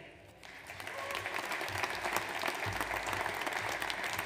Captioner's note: audience applauds